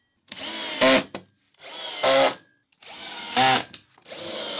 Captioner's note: driller buzzing